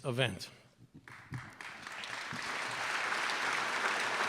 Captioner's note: applause